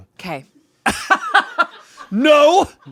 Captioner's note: laughs